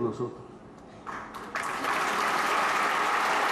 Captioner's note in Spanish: Aplausos